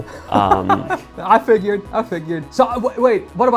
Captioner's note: laughing